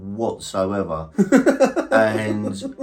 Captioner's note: laughing